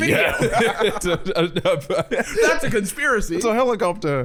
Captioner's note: stammering